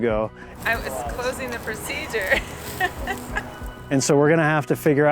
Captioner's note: laughs